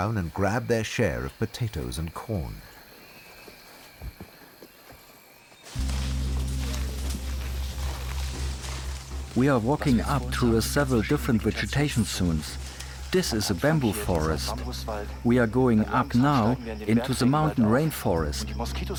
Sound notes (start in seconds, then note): 8.7 in German